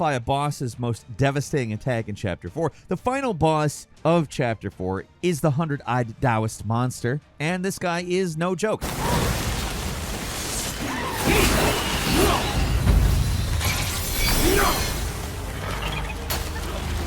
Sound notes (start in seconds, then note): 10.6 creatures yelling